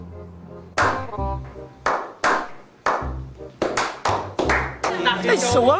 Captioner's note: clap clap clap clap clap clap clap clap clap clap